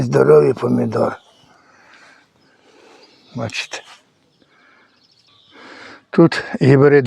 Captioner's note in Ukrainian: прочищення горла